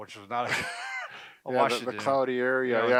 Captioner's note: chuckling